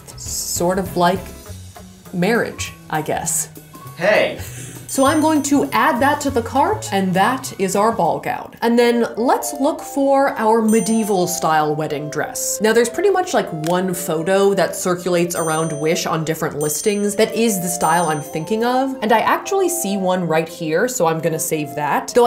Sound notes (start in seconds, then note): 4.6 laughs